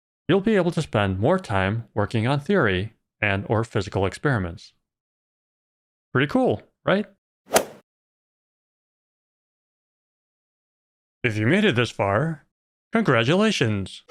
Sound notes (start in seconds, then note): 7.5 golf ball hit sound